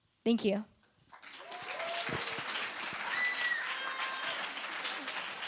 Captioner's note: applause